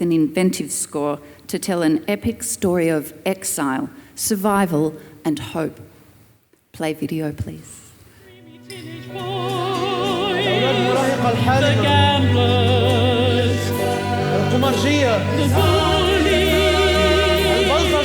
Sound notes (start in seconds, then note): 14.1 performer speaking Arabic